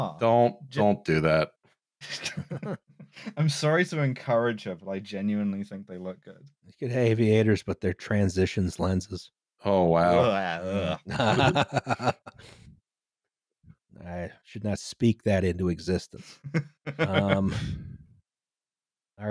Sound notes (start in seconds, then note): 2.0 laughter; 10.0 humourous sound of utter disgust/disdain; 10.2 laughs